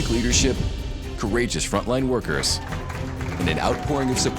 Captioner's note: staff clapping and cheering